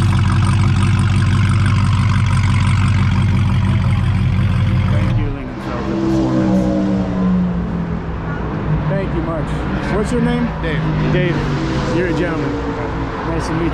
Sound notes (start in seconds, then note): 0.1 car engine running; 5.0 car passing fast